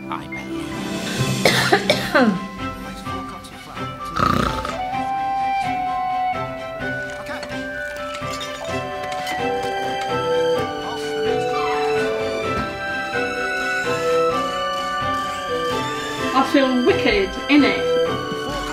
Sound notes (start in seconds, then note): 1.2 Grandma coughs; 1.5 bright music; 4.1 grandma snores; 5.0 bright music; 8.6 bright music; 12.5 bright music